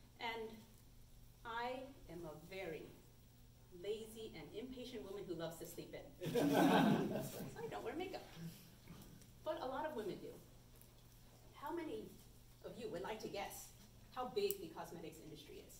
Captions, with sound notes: And I am a very lazy and impatient woman who loves to sleep in. [AUDIENCE CHUCKLES] So I don’t wear makeup. But a lot of women do. How many of you would like to guess how big the cosmetics industry is?